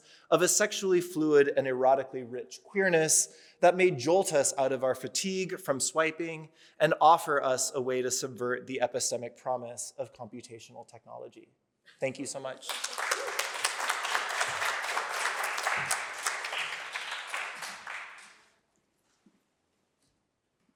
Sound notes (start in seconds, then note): 12.4 applause